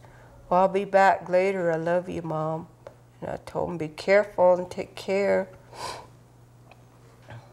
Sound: sniffs

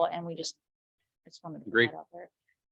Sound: speaks faintly

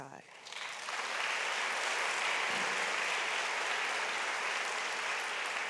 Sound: audience applauds

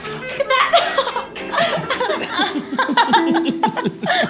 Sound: upbeat old time music; both chuckling

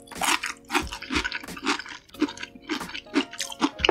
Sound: crunchy crunchy, ASMR

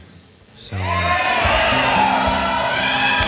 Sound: audience cheering; slow acoustic guitar music

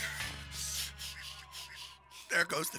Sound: sobbing

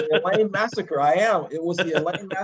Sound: laugh

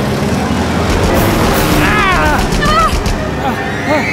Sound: gunshots

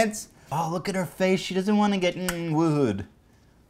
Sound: click

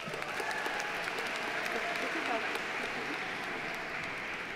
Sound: audience applauding

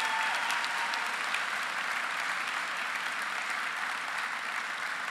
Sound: applause

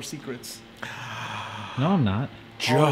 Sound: gasp

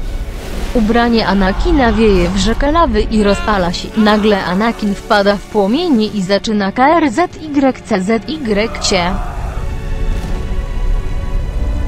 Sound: scream

